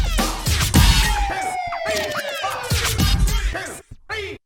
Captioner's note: siren blaring